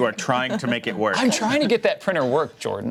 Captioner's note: laughs